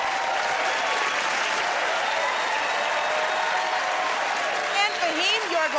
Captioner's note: cheers and applause